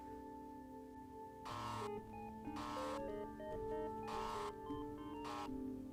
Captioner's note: unique cell phone ring